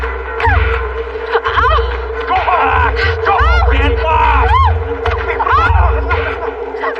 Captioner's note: groans